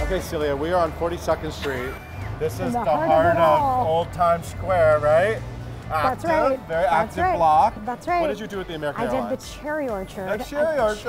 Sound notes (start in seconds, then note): 1.6 laughs